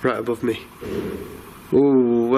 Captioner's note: bang